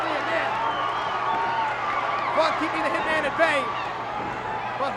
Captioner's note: applause